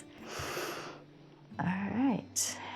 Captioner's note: inhales; exhales